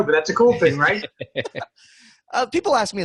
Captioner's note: laughing